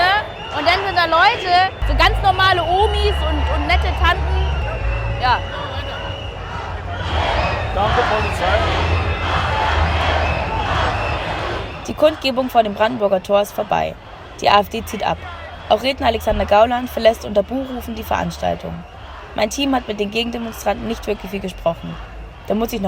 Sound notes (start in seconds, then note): 9.1 Sprechchöre im Hintergrund